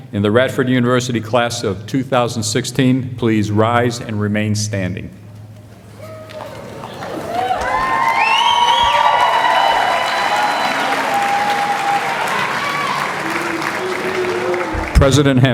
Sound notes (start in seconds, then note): 12.2 applause